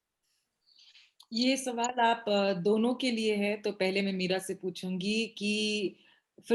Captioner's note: speaks foreign language